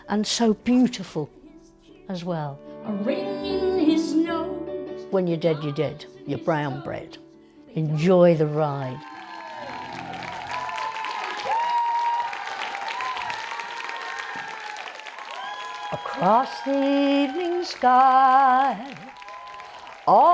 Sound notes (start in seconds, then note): 3.0 sings; 10.2 cheers and applause; 16.2 sings